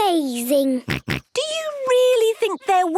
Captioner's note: snorts